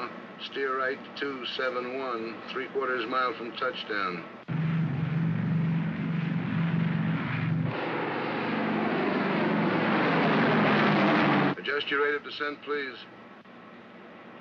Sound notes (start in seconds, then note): 4.4 aircraft rumbles; 7.4 aircraft roars overhead